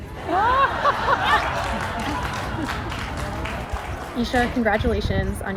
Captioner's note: laughter